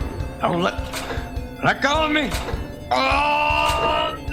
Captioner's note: in fear